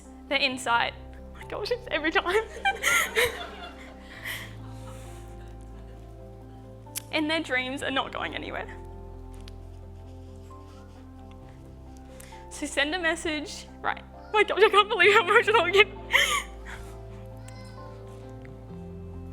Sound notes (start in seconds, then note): 2.5 laughter